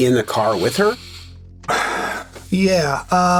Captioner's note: Gilligan exhales